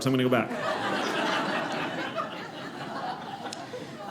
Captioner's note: audience laughing